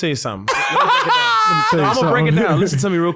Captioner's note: laughing